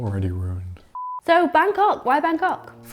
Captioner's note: beep